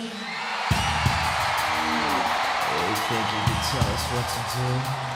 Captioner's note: crowd cheering